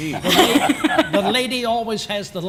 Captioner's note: laughter